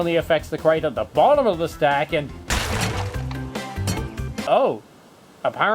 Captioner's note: box breaks